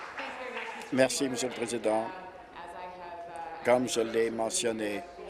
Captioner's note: applause